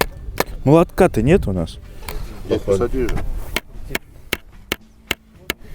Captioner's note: hammering